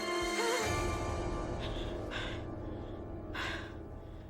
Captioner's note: Louise gasps